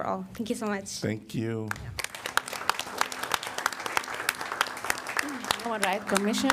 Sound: applause

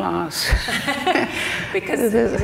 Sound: both laugh

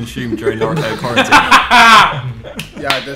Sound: laughing

